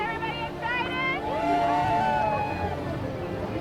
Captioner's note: cheers